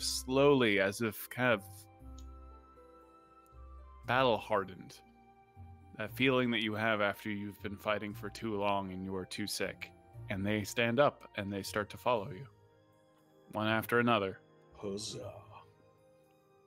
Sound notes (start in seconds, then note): none